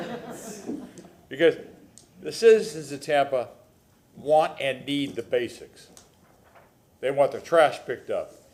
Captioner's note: laughter